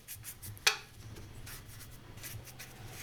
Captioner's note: brush, clack